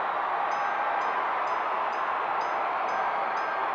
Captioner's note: bell ringing